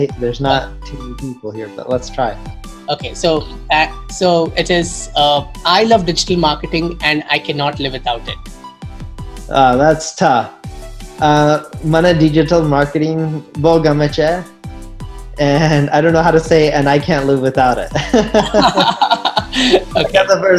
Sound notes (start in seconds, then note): 12.0 speaks in foreign language; 17.9 laughs